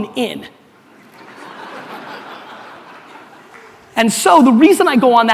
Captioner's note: audience laughter